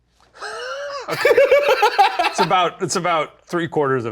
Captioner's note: both laugh